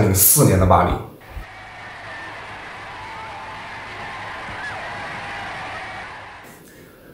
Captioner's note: cheering